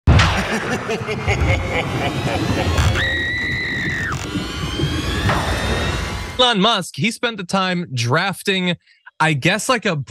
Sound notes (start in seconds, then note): 0.3 laugh